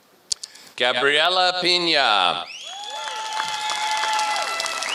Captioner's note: applause